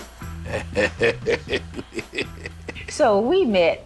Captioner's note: laughing